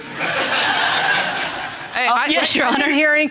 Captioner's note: laughter